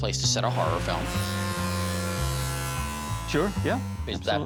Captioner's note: saw buzzing